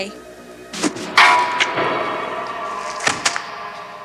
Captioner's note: clank; splat